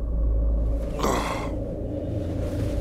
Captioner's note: Yawning